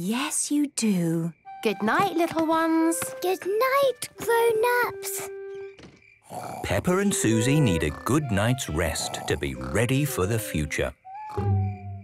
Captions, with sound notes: - Yes, you do. - Good night, little ones. - Good night, grown-ups. - (Peppa and Suzy snoring) - Peppa and Suzy need a good night's rest to be ready for the future!